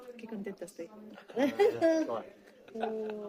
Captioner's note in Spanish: risas